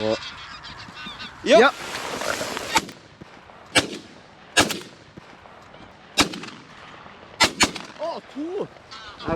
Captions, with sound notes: [geese honking] Oh, yeah. Yeah. [gunshots] Oh, two!